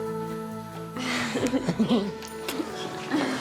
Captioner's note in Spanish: risas